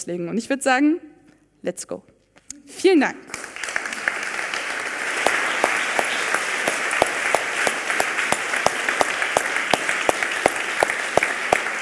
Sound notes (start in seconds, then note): 3.2 applause